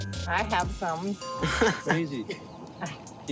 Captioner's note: laughs